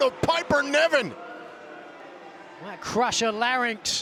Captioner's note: crowd boos